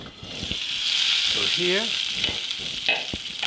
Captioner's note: sizzling